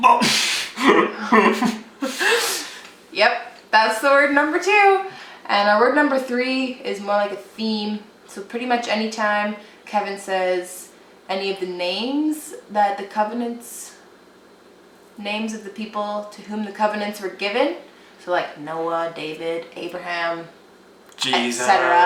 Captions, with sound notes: Oh! (laughs) Yup. That's the word number 2! And, uh, word number 3 is more like a theme, so pretty much any time Kevin says any of the names that the covenants, names of the people to whom the covenants were given, so like, Noah, David Abraham, Jesus, etc.